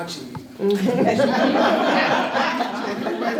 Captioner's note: laughter